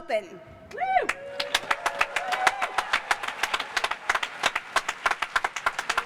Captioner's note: cheers and applause